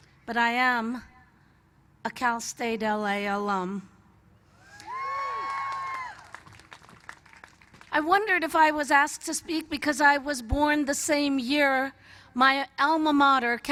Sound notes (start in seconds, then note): 4.6 cheers